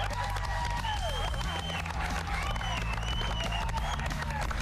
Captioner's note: cheers and applause